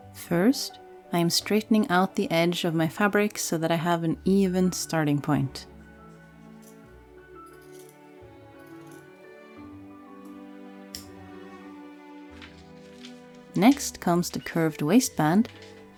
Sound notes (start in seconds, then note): 10.9 snip